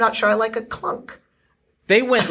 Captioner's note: laughs